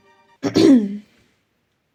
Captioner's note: clears throat